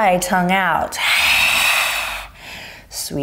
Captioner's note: sharply exhales